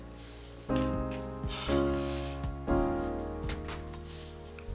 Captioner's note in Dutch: ademt zwaar uit